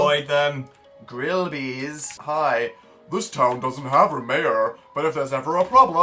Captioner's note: low American voice